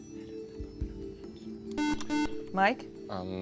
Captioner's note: beep